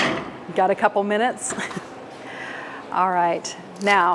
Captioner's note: tray clatters; laughs